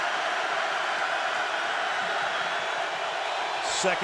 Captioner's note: cheering